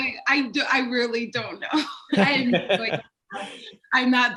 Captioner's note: laughs